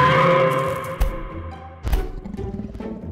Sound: dinosaur screeching; dinosaur stomping

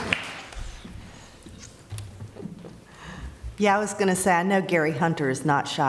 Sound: applause

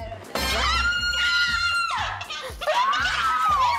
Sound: shrieks

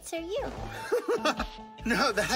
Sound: chuckles

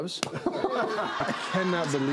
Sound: laughing

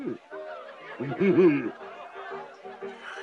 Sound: scrooge chuckles

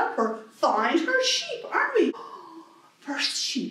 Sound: gasp

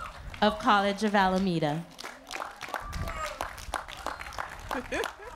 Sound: applause

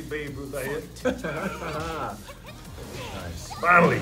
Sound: laugh

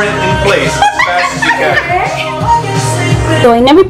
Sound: crazy laughs

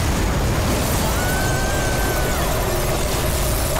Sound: screaming

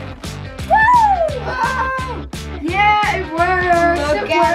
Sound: both cheering

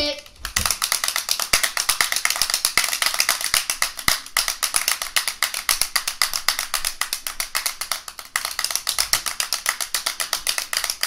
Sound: clapping sounds

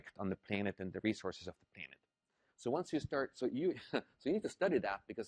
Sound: laugh

